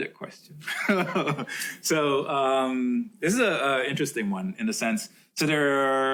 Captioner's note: laughs